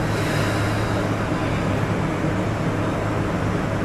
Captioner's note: sighs